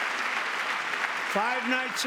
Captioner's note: applause